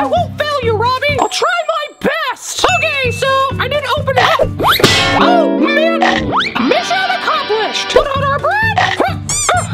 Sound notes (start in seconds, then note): 4.4 waffle iron bangs